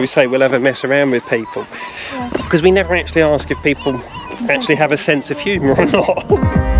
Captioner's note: laughter